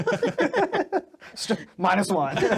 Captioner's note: laughing